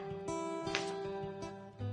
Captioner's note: paper slips